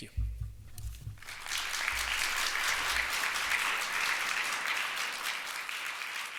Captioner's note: audience applauds